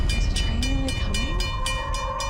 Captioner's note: train alarm clanging; eerie music